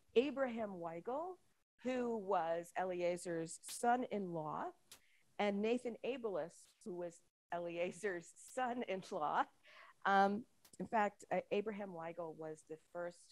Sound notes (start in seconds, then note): none